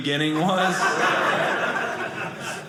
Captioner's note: audience laughing